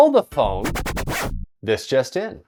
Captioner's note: record screech!